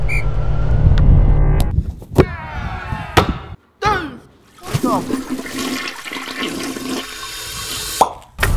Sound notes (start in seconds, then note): 4.6 toilet flushing sound